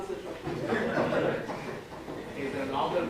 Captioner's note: laughter